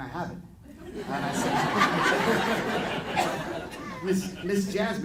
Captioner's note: audience laughing